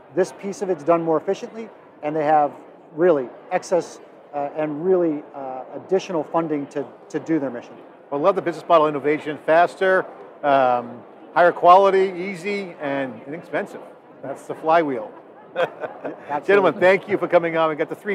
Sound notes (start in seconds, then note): 15.2 chuckles